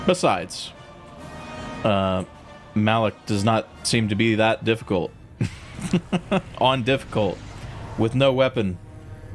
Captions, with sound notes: Besides, Malak does not seem to be that difficult. [Laughs] On difficult with no weapon.